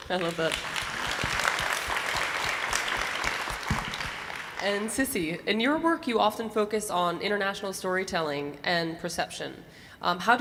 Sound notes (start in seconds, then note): 0.0 audience applauding